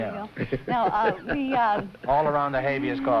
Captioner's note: laughter